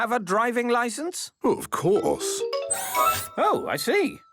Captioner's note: mechanical arm whirring